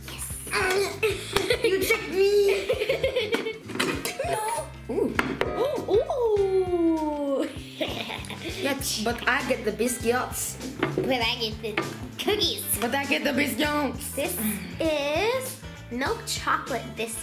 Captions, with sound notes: - Yes! - Darn it, you tricked me! (giggles) - No, oooh. - Oh, oooh! - Yeah, but I get the biscuits. - But I get the cookies. - But I get the biscuits. - This is milk chocolate biscuits.